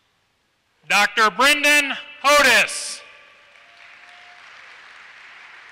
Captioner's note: applause